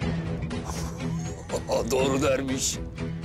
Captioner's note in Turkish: Gülüyor